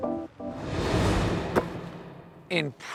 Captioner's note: ball thudding